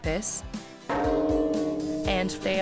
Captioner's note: bell sound